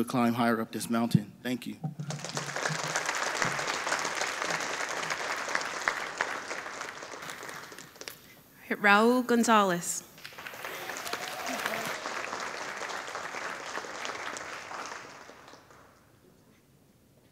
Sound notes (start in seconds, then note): 2.0 audience applauding; 10.2 audience applauding